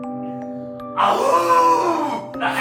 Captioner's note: howling